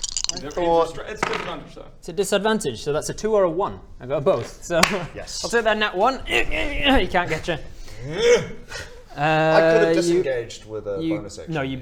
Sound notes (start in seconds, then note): 8.0 urr-urgghh; 8.1 nrrggh!